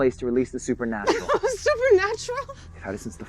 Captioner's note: Andrea chuckles